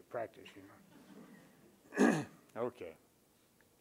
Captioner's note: chuckle